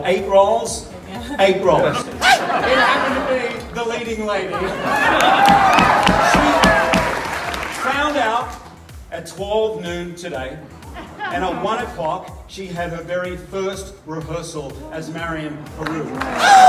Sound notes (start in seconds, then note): 4.5 cheers and applause; 15.8 cheers and applause